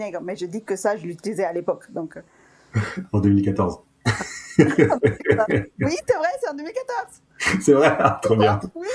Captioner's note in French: rires